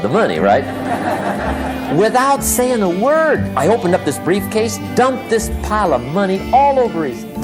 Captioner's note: laughter